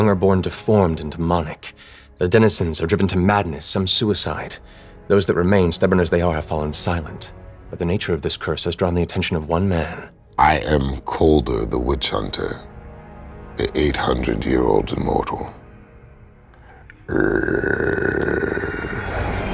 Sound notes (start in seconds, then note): 17.0 growls